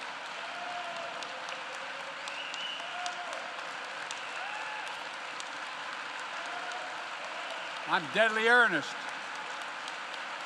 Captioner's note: applause